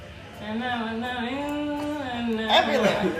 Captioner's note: humming